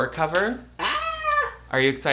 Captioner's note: squeals